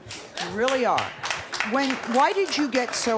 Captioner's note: applause